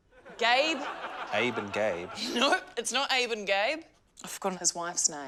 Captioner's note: laughs